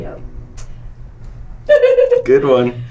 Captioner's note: giggles